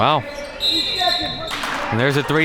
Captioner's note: whistle blows